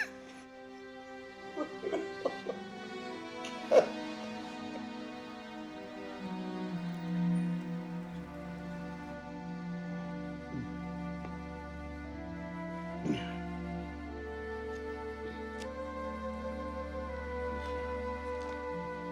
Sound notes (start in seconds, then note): 1.6 Charles crying; 6.8 slow, somber music; 13.2 groaning; 15.4 somber orchestral music